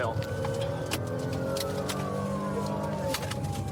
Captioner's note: siren blaring